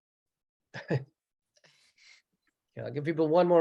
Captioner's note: chuckles